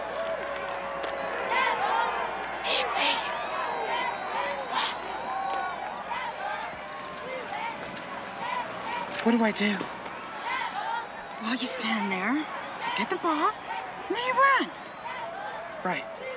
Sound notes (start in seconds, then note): 2.7 cheerleaders chanting